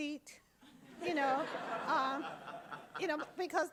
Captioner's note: audience laughing